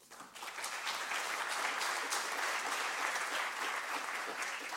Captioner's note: audience applause